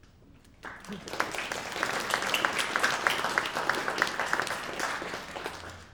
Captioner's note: applause